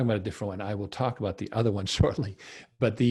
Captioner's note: laughs